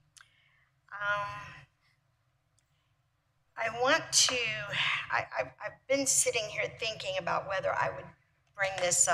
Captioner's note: sigh